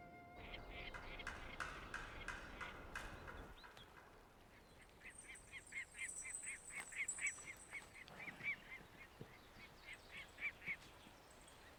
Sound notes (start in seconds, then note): 1.6 bird calls